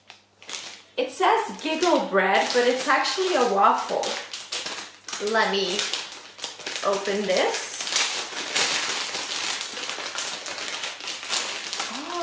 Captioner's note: crinckling sound